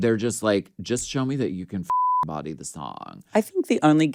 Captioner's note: beep